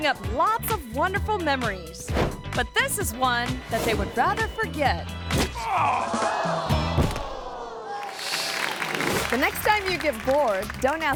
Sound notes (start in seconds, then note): 5.3 kick thuds; 5.6 man groans; 7.4 crowd gasps; 8.3 image whooshes